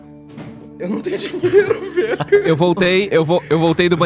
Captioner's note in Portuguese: riem